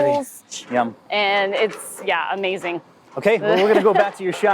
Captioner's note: laughing